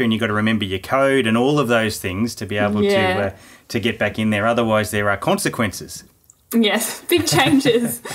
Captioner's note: laughing